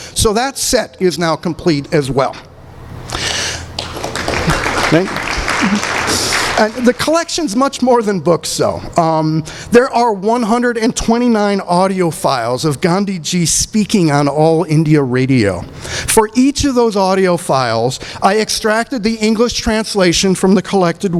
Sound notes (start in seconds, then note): 3.7 applause